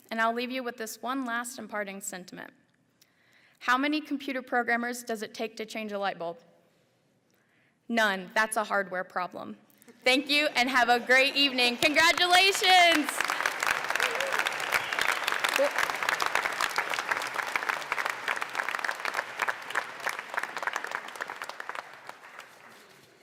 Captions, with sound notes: and I'll leave you with this one last imparting sentiment. How many computer programmers does it take to change a light bulb? None, that's a hardware problem. Thank you, and have a great evening, congratulations. (applause)